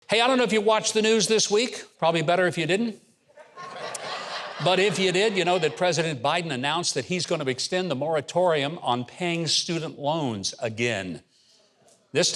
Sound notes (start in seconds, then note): 3.3 laughter